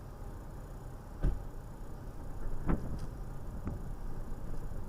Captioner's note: officer’s cruiser door closes after officer exits vehicle